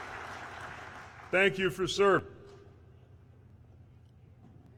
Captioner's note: applause